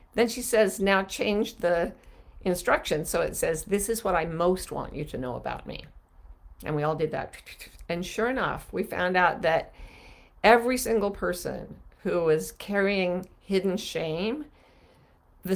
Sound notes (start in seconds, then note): none